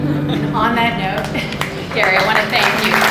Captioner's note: applause